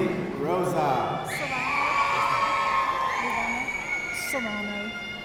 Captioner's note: audience cheering